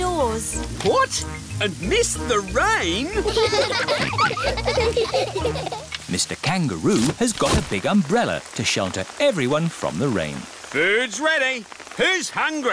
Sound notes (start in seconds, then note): 3.1 all laughing